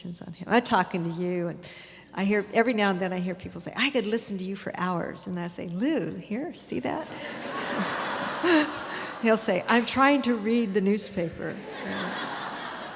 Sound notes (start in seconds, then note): 7.2 audience laughter; 11.6 audience laughter